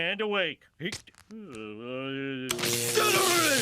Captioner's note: groaning; electricity crackling